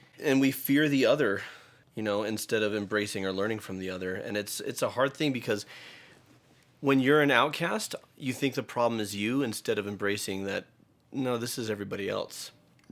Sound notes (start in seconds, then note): none